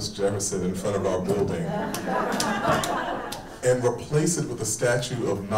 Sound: people laughing

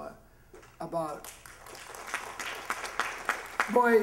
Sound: applause

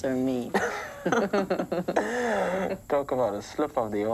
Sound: laughing

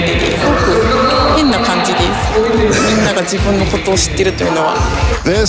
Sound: upbeat rock guitar music; speaks in foreign language

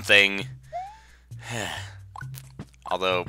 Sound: sigh

